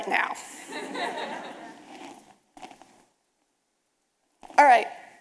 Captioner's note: audience laughing